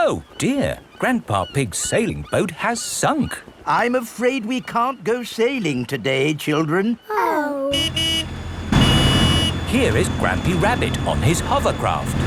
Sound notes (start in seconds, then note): 7.7 honking